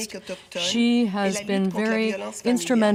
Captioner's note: speaking French